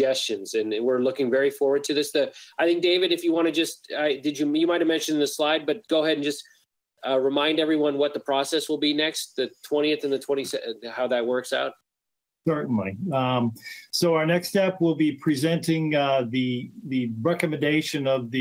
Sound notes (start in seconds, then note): none